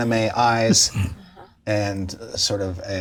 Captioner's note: laughs